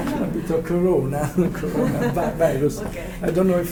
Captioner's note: laughts